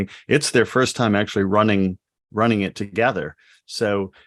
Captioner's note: none